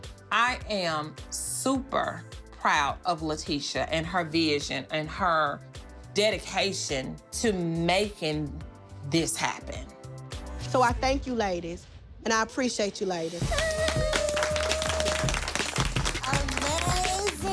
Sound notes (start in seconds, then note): 13.4 applause